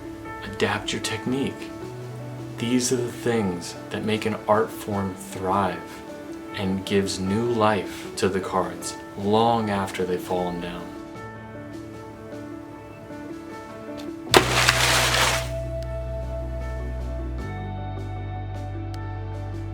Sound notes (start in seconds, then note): 14.3 thump and rustling crash